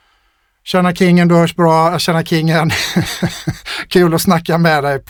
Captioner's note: laughter